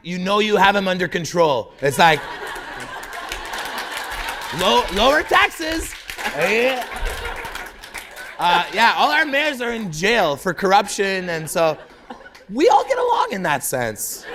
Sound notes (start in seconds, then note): 3.6 laughter; 4.6 applause